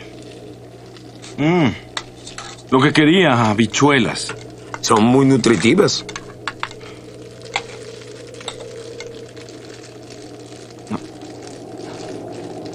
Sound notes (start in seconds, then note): 6.0 scoffs; 8.0 wind whistling